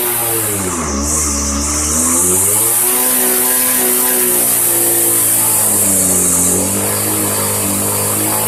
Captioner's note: engine Runs